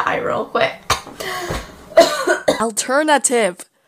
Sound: coughs

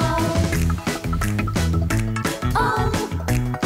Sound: click! click! click! click!

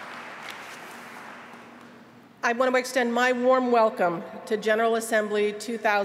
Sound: applause

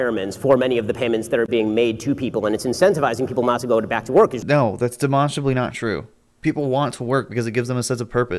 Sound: none

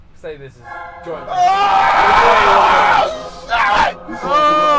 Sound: exclaiming; Simon Moaning

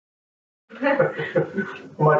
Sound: laughing

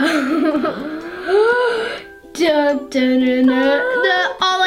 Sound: giggles

